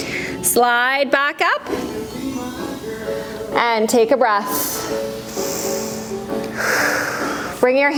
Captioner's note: breath